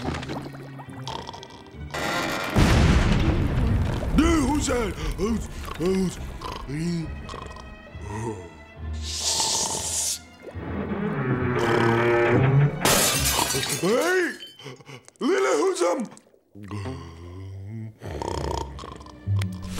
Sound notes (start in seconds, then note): 1.0 snoring; 2.3 banging; 6.4 grumbling, snoring; 12.8 shattering; 18.0 snoring